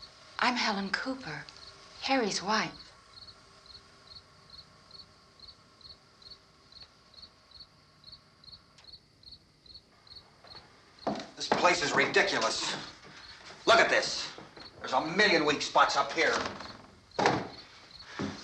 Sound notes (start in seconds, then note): none